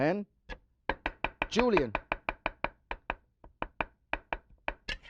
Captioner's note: knife chopping